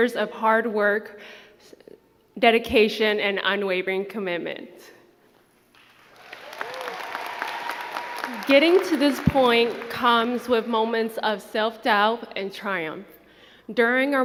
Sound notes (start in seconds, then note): 5.7 crowd clapping and cheering